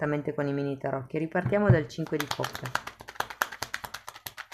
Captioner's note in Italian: Applauso